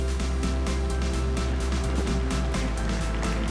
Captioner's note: applause